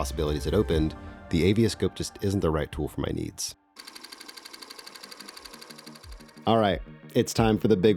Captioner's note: keyboard Clacking